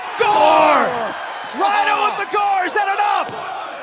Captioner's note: cheers & applause